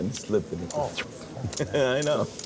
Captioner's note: swishing; laughing